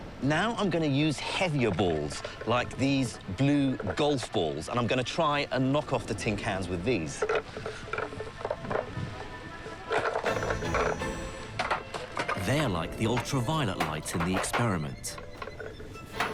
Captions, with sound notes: Now I'm gonna use heavier balls like these blue golf balls, and I'm gonna try and knock off the tin cans with these. (balls clatter) (lively orchestral music) (cans clatter) They're like the ultra violet light in the experiment.